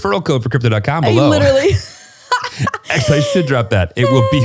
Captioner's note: laughs